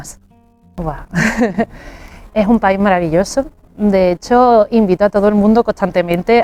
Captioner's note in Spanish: risas